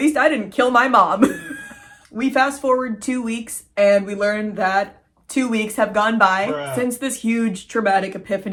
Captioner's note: cracking up